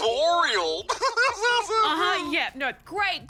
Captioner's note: laughs